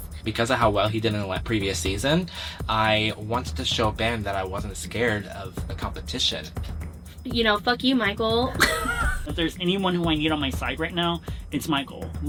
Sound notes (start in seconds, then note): 8.4 laughs